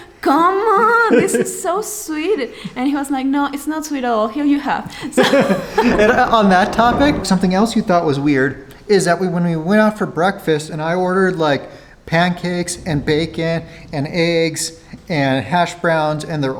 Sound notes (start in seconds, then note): 4.9 laughing